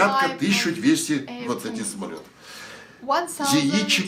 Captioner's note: foreign language